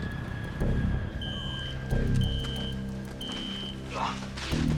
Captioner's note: alarm sounding